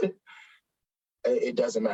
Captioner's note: chuckles